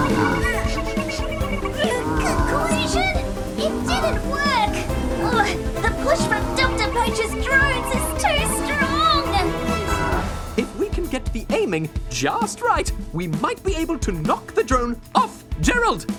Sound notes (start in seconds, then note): 2.0 strained